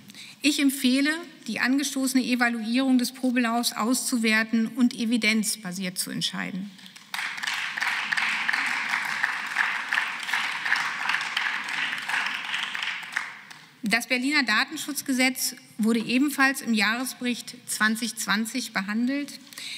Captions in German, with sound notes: Ich empfehle die angestoßene Evaluierung auszuwerten und evidenzbasiert zu entscheiden. (Beifall) Das Berliner Datenschutzgesetz wurde ebenfalls im Jahresbericht 2020 behandelt.